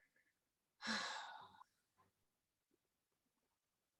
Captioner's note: sighing